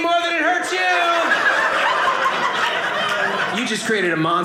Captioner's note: audience laughing